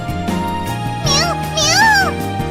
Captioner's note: meowing